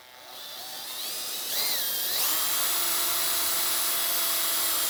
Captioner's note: drill whirring